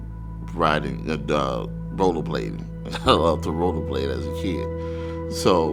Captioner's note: laughs